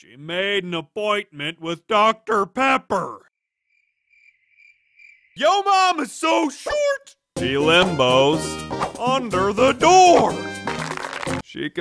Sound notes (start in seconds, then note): 3.6 crickets chirp; 10.5 applauds